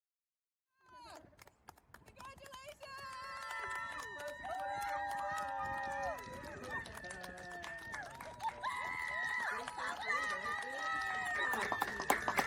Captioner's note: clapping and cheering